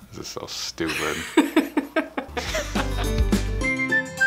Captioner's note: laughing